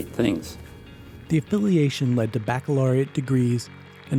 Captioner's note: voiceover